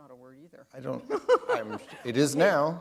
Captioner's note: chuckle